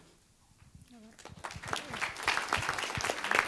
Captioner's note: applause